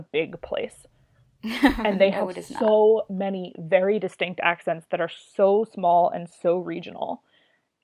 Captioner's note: laughs